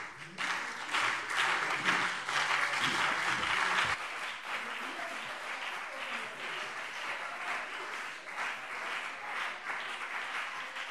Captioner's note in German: Anhaltender Beifall BÜNDNIS 90/DIE GRÜNEN und CDU